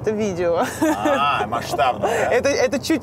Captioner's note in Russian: Ира смеётся